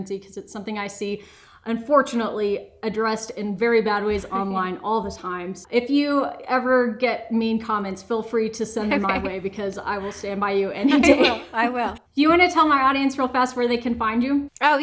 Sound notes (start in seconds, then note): 8.8 laughs; 10.8 laughs